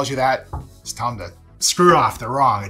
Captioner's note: hand knocking table